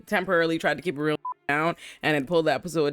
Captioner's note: beep